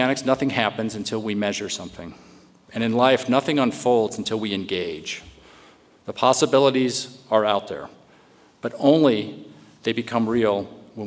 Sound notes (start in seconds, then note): none